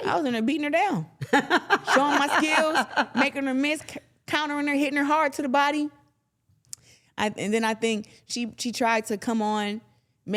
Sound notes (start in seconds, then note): 2.8 laughing